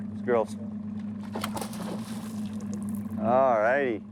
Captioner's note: splash